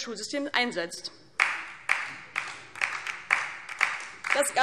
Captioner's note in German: Beifall DIE LINKE